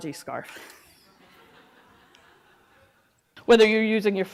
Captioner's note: audience laughing